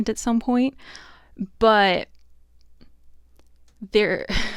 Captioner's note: wry laugh